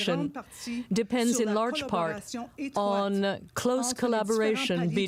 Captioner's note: speaking french